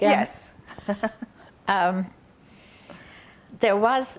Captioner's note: laughing